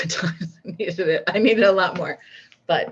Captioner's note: laughs